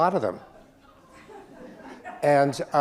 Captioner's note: audience members laughing